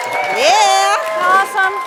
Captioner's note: audience claps and cheers